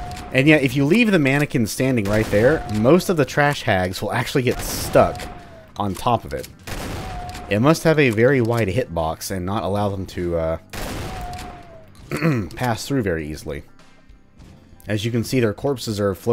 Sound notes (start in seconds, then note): 12.0 clears throat